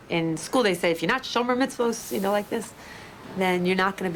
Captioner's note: speaks in foreign language